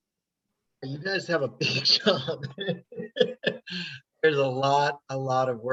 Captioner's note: laughing